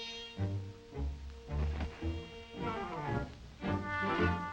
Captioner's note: feet thud